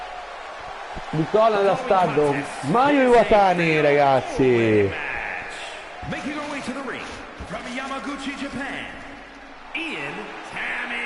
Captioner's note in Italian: Applauso